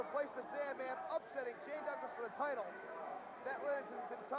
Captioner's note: crowd chatter